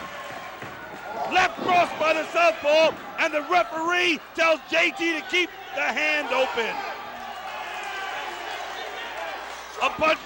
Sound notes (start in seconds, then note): 0.0 crowd cheering